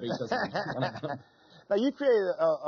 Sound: laughing

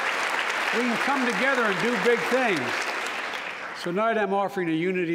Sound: applause

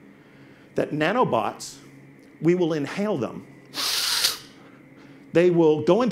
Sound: sniffs

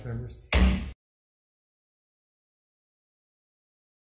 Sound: gavel thudding

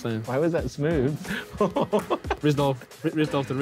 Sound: men laughing

